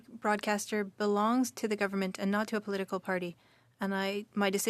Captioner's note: speaking French